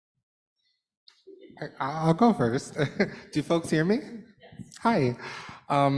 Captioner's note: laughter